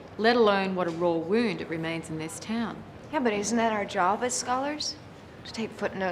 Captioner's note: none